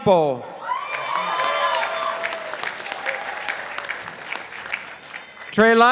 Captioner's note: participants applauding